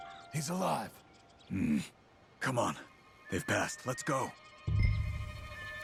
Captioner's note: grunts